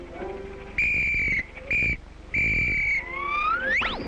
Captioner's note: whistle toots